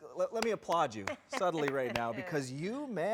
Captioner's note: clapping